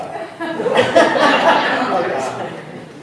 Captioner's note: laughter